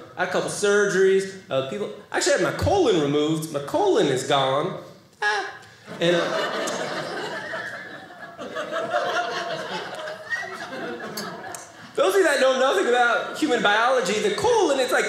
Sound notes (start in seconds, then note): 5.8 audience laughing